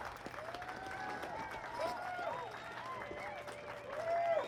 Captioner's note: crowd cheering